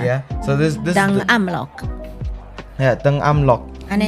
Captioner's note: Taiwanese